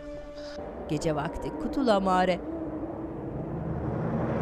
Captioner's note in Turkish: Baykuş sesi; Rüzgâr sesi